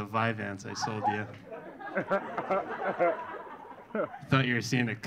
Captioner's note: audience laughing